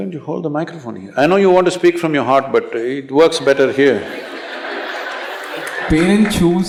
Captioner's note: laughter